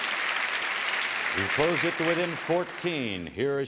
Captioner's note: applause